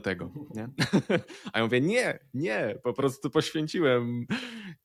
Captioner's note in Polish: śmiech